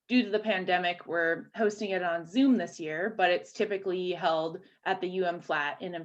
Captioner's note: none